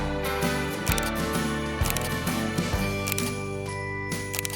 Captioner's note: camera snapping